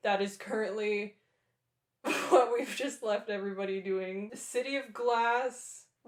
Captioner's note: laughter